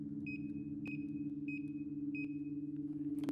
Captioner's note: beeping